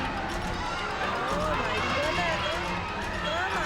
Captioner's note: people screaming